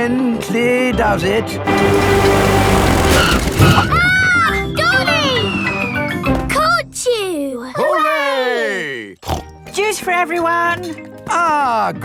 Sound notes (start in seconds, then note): 5.2 screams; 9.2 snorts